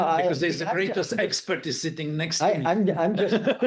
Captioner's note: laughing